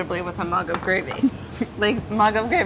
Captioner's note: laughter